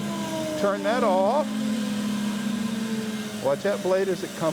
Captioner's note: bandsaw roaring